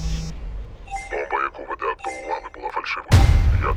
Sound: music stops; phone rings; distorted voice

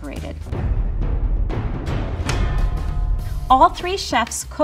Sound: booming noises

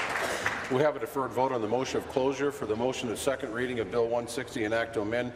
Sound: applause

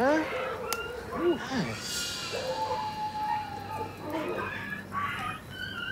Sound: distant dog howling

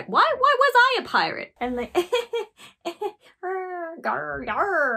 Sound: awkward laugh

